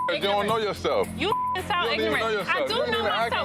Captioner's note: beep